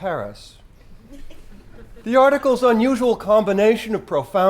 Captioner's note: laugh